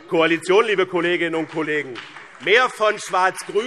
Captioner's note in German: Beifall BÜNDNIS 90/DIE GRÜNEN